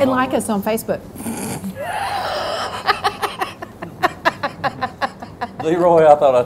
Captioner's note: laughing